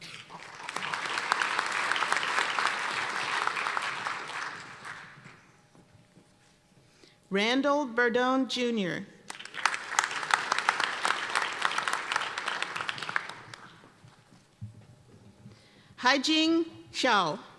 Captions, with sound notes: (applause) Randall Berdon, Junior. (applause) Haijing Cao.